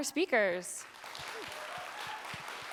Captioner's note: cheering and applause